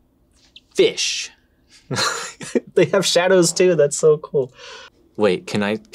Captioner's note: laughs